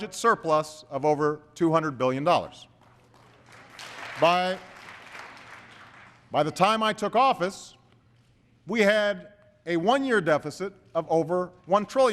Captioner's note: applause